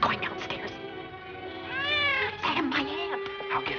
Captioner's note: meows